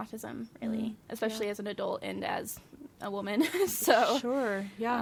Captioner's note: laughs